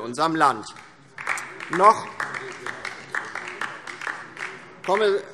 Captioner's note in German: Beifall DIE LINKE